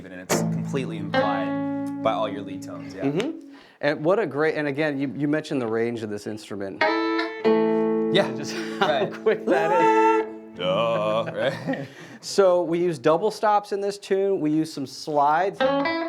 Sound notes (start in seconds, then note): 8.2 laughing